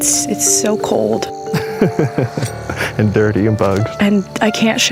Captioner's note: laughs